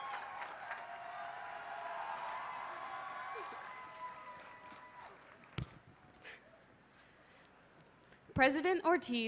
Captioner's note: applause